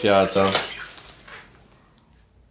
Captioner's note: chirping